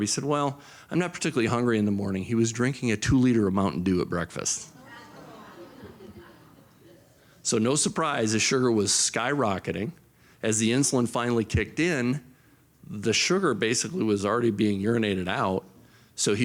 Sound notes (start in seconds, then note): 4.8 audience groans